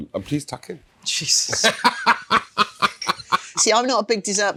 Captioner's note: laughing